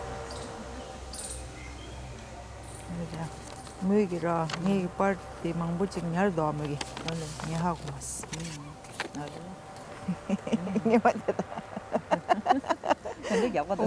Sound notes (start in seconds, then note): 3.1 speaks foreign language; 10.0 laughing